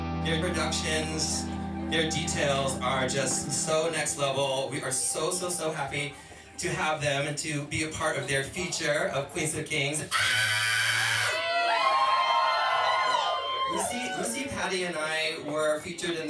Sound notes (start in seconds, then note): 10.0 screams; 12.3 audience cheering